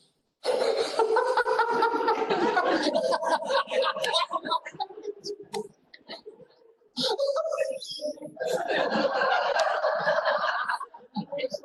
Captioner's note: laughs